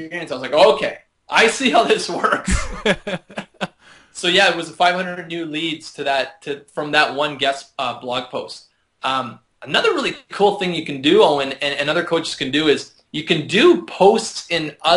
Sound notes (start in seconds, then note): 2.3 laughter